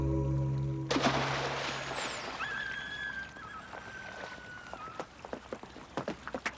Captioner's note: dog whines; splashing